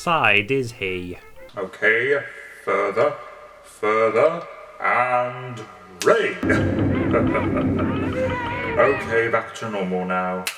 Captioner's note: laughs